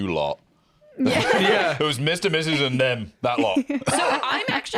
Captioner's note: laughs